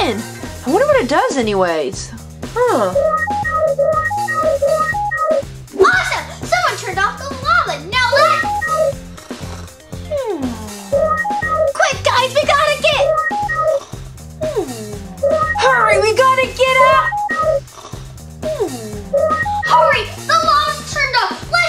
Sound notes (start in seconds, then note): 9.4 snoring